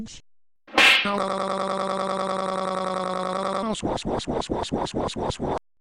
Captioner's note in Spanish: ruido de bofetadas